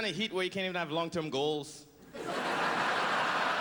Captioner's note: laughter